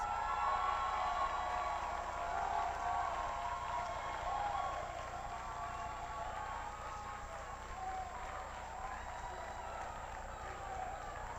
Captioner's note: applause